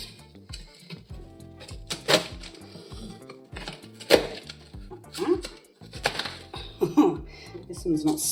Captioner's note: crunchy crack